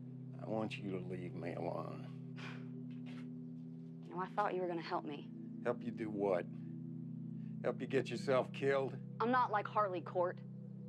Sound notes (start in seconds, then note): 2.4 Joe sighs